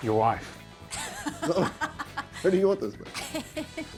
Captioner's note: laughs